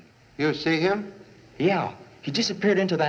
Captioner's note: none